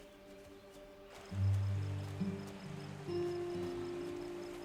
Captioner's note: water trickling